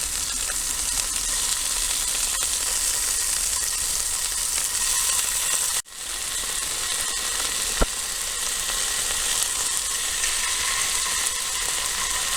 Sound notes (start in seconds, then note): 2.1 even more frying sounds